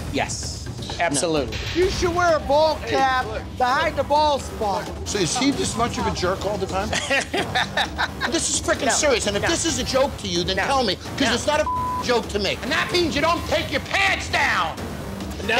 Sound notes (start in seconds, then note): 7.0 bar tender laughs; 11.6 beep